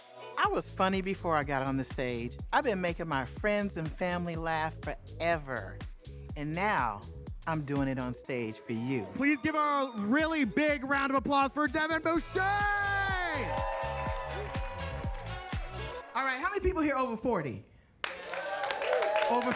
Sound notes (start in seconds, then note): 12.2 audience cheering; 18.0 audience applauding